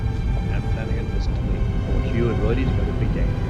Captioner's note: men talking